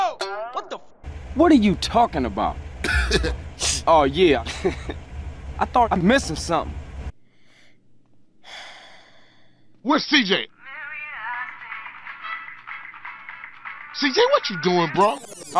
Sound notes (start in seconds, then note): 0.1 poing; 2.8 chuckles